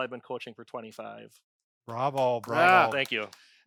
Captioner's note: they applaud